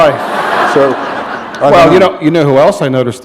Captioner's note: laughter